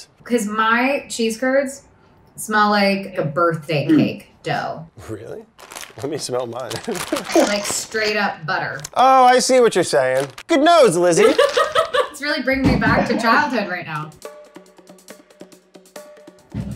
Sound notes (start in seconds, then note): 11.2 Elizabeth laughs; 14.2 upbeat music